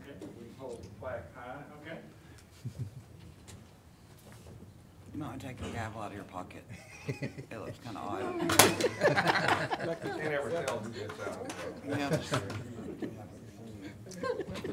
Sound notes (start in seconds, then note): 6.7 laughing